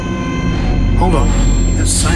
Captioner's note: alarm blaring